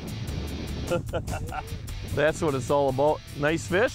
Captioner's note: chuckling